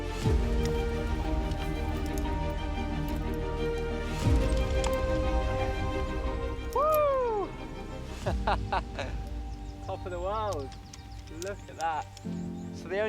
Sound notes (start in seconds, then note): 8.2 laughing